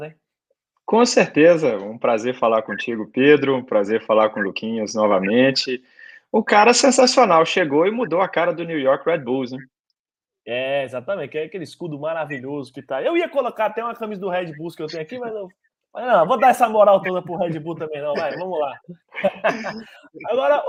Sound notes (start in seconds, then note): 16.1 laughs